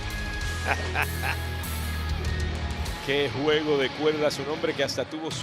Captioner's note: laugh